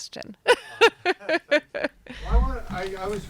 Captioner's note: laughing